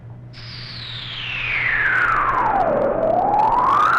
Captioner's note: air whooshing